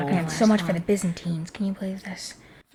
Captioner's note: audience whispers